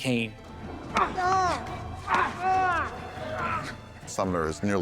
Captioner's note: Charles groans